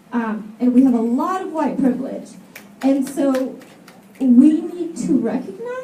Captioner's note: snaps from audience